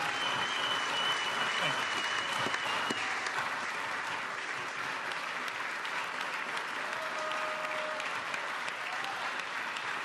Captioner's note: applause